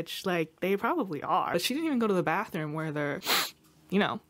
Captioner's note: sniffs